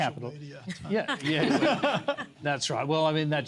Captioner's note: laughter